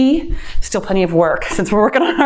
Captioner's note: laughs